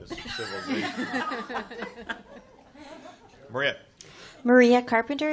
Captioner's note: chuckles